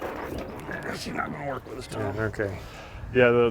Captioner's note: grunts